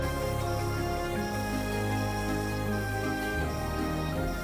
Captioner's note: spray paint hissing